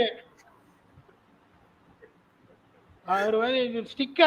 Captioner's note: laughs